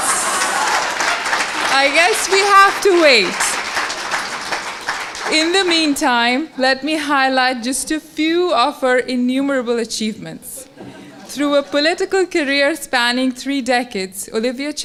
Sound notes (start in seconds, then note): 10.6 laugh